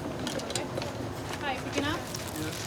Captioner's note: people chattering